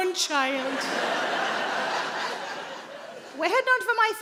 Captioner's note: audience laughing